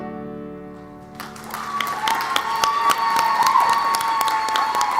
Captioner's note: clapping and cheering